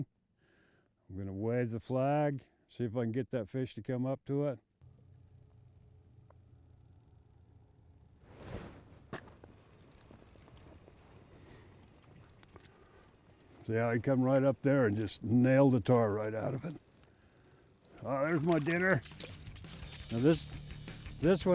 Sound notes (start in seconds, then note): 10.2 reel spinning; 16.7 fish splashing